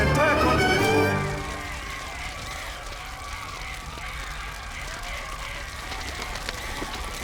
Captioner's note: people screaming; fire crackling